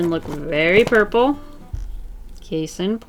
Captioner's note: thud